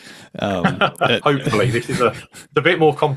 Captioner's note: laughs